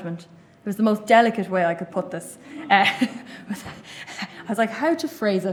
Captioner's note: laughter